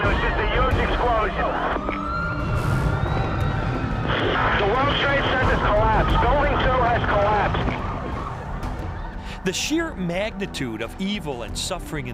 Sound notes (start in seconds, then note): 2.0 screams; 2.8 sirens